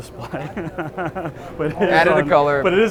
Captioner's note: laughs